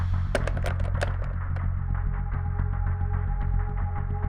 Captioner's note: door knob rattles